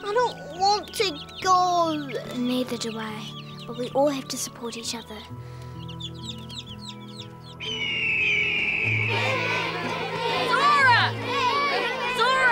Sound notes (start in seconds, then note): 5.3 chicks chirping; 7.5 bird screeches; 7.6 crowd cheering